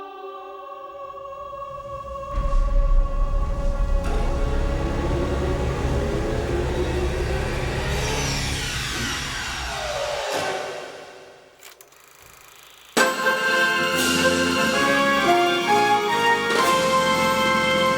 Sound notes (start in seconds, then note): 13.0 upbeat exciting music; 13.1 projector clicks